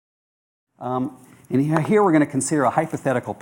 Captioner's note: voiceover